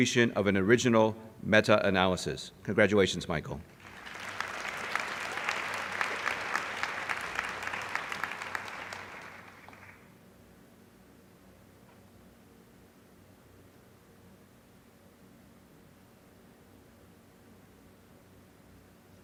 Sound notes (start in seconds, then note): 3.7 applause